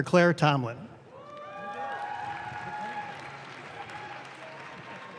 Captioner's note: audience claps